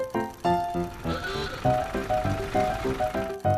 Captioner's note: horn honks